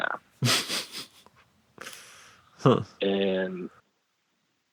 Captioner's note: snickers